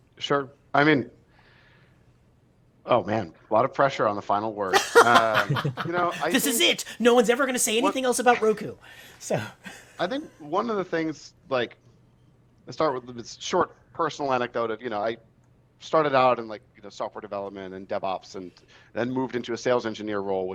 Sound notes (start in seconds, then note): 4.7 laughs